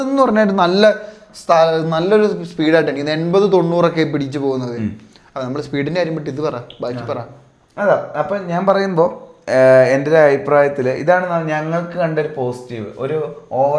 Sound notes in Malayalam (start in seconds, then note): 5.1 തൊണ്ട ശരിയാക്കുന്നു